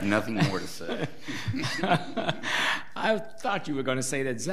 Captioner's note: people laugh